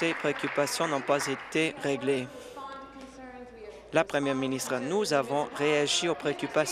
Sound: applause

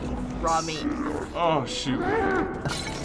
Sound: guest snarling; jar shattering

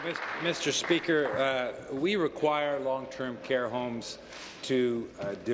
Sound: applause

